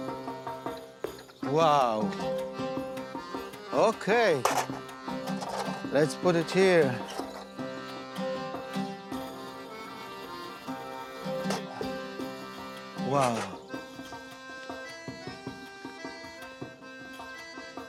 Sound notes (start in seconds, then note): 4.3 dishes clanking